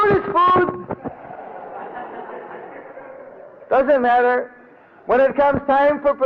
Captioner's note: devotees laugh